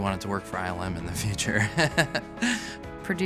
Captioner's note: chuckles